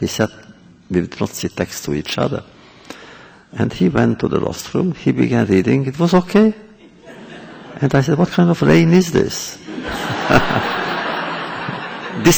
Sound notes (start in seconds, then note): 6.8 laughter; 9.6 laughter